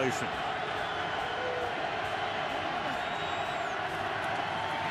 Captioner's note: cheering